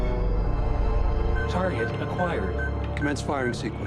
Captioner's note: computer voice